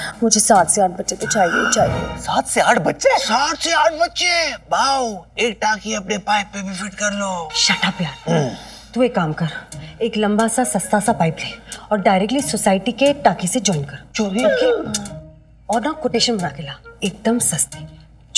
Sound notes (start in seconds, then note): 8.3 Clears throat